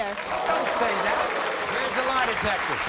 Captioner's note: crowd moaning